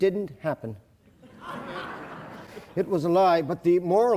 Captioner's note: audience laughing